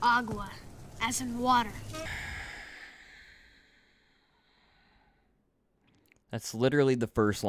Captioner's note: deeeeeeeep 3D sigh